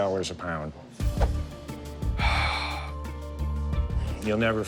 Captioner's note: sighs